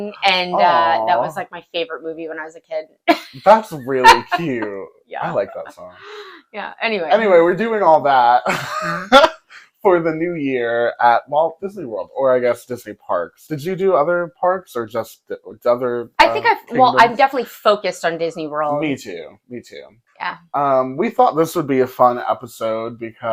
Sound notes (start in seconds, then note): 8.4 laughing